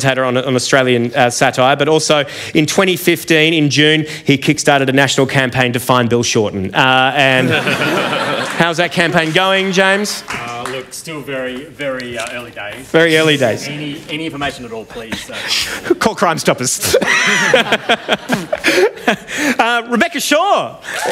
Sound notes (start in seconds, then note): 7.3 laughter; 16.8 laughter